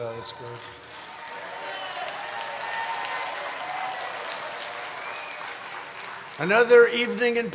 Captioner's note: applause